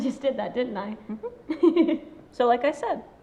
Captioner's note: friend laughs